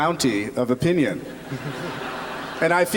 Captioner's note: laughter